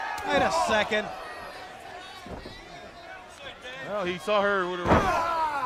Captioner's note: crowd chatter